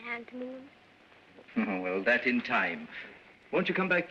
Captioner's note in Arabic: يضحك